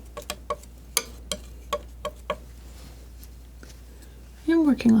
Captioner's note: scratching